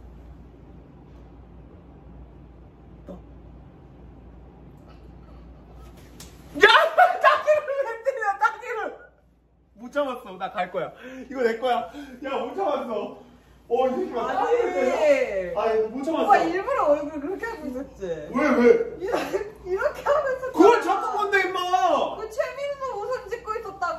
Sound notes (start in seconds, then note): 5.9 slap